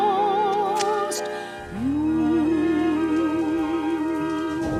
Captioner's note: match striking